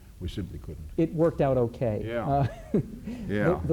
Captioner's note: laughs